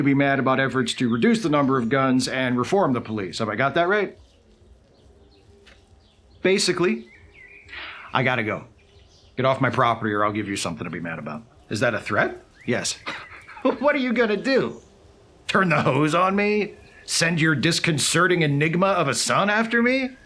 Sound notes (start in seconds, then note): 13.8 scoffs